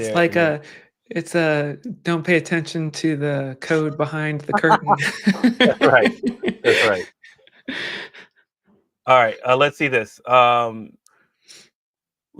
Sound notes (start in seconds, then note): 4.5 laughter